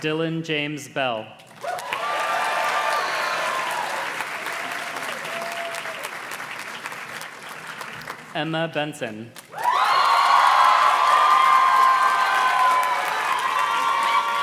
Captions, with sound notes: Dylan James Bell. (audience cheers and claps) Emma Benson. (audience cheers and claps)